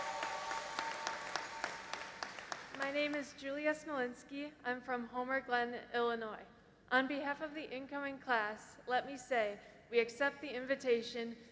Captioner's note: applause